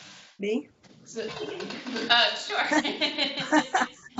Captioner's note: laughter